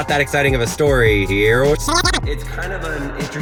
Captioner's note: squeaking in fast reverse